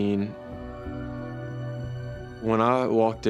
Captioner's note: siren wailing